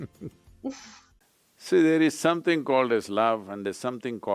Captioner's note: Sadhguru laughs